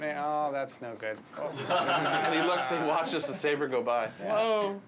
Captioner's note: animators Laughing